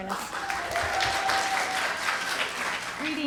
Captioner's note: applause